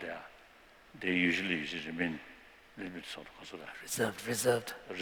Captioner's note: non-english